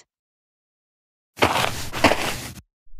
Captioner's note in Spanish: FX - Footsteps - On Multiple Dirt - Walk